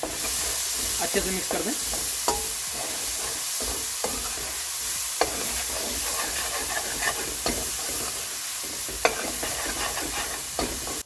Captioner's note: and more SIZZZZZZZZLLLLLLEEEEEEE